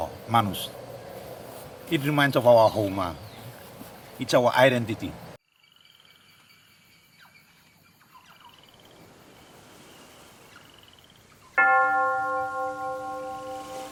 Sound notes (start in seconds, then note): 4.8 birds whistling; 11.6 bells ringing